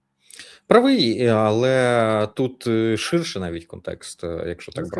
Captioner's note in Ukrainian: сопіння